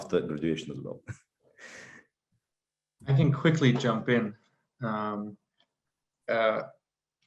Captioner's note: laugh